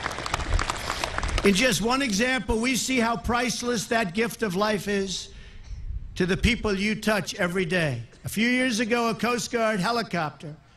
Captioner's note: applause